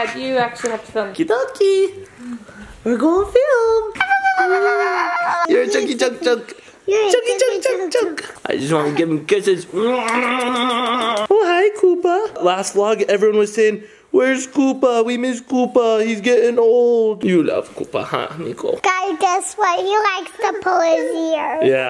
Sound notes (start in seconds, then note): 4.0 babbling; 9.9 exaggerated kissing sounds